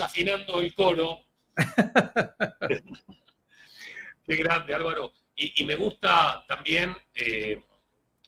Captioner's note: laughs